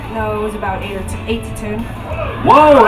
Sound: audience cheers

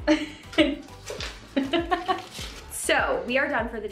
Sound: chuckling

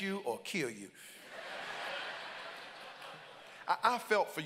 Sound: congregants laugh

